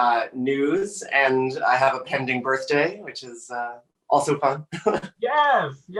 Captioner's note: laughing